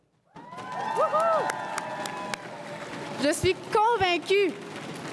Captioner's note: everyone cheering and applauding